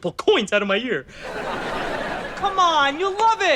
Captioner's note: audience laughter